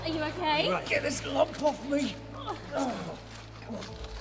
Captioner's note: groaning